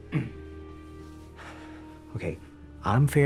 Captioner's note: sighing